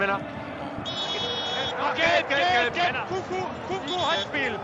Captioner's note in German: Pfiff